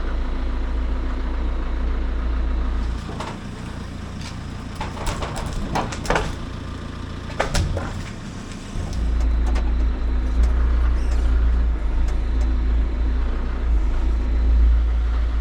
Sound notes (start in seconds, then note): 5.1 log thudding; 9.6 engine rumbling